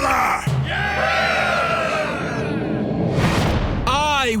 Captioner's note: cheering